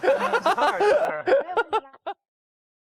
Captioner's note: hahaha